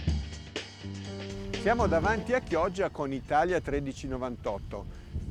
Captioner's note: speaking foreign language